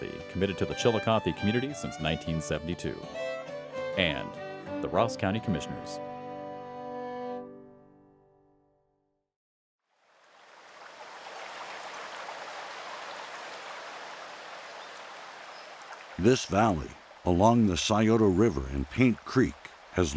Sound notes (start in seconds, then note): 9.6 birds chirping; 9.9 river burbling